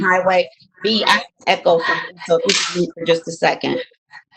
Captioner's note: audio distorting